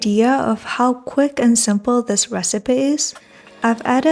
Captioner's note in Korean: 다시 번역 말투 시작